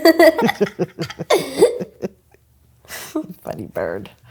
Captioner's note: laughs